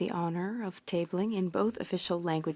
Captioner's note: speaking French